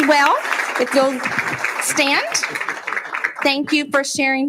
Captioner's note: applauding